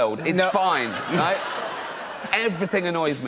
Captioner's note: laughter